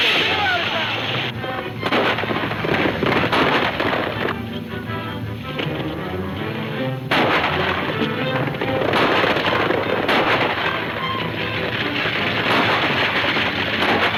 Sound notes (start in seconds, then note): 1.8 gunfire pops